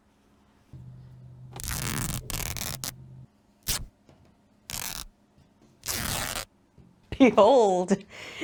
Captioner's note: very intense fabric ripping noises; laughs